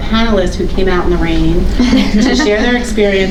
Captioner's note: panelists chuckling